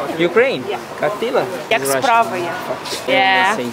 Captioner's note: speaking Russian